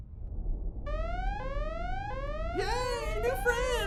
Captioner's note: alarm sounding